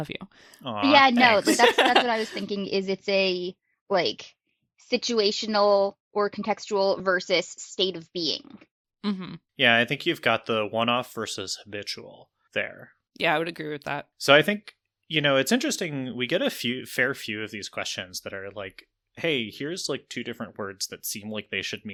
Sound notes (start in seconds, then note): 0.8 laughs